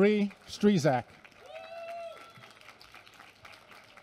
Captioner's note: applause